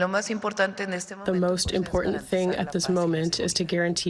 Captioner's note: through translator